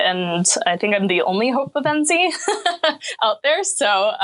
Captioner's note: laughing